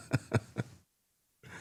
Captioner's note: laughing